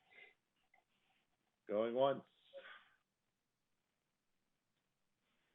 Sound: silence

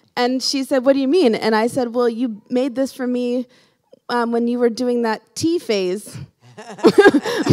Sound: laughing

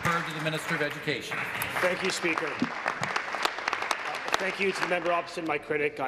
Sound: applause

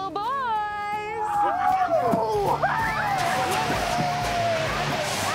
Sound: boys whooping

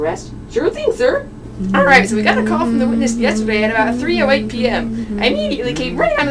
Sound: hums cross-examination music in the background

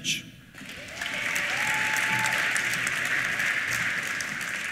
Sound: applause; cheers

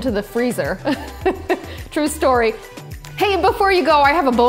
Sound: laughs

